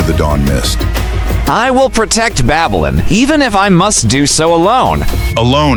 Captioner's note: whispering to the empty hall